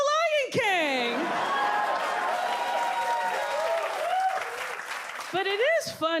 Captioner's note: audience cheers, claps